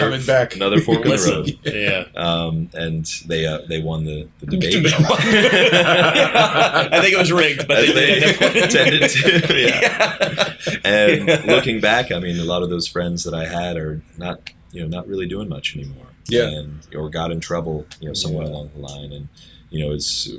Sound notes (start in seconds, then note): 10.8 laughter